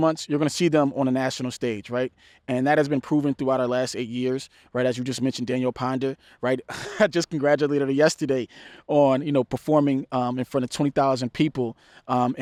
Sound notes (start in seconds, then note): 6.7 laughs